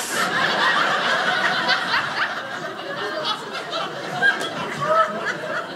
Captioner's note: audience laughing